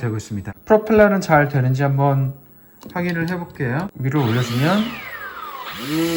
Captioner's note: Throttle